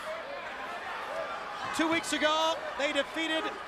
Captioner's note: crowd chatter